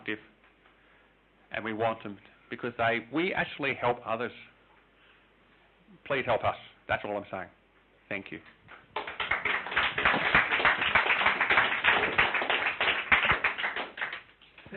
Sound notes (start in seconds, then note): 8.7 clapping